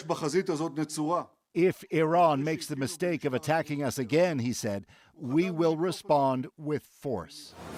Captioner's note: speaking alternate language